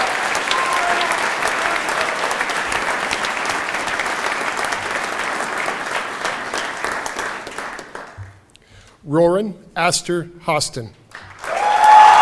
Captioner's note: applause